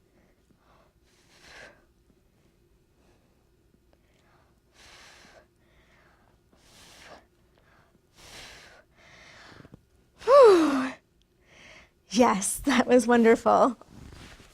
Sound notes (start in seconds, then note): 11.4 breathes